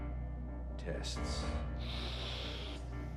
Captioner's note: deep sniff